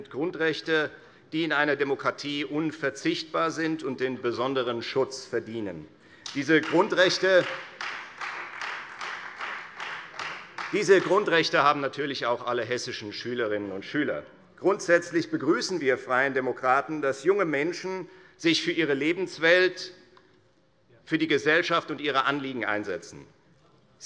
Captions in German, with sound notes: Grundrechte, die in einer Demokratie unverzichtbar sind und einen besonderen Schutz verdienen. [Beifall Freie Demokraten] Diese Grundrechte haben natürlich auch alle hessischen Schülerinnen und Schüler. Grundsätzlich begrüßen wir Freie Demokraten, dass sich junge Menschen für ihre Lebenswelt, für die Gesellschaft und ihre Anliegen einsetzen,